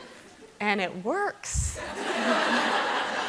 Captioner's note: laughter